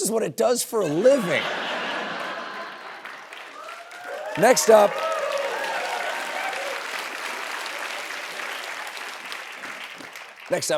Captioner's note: laughter and cheering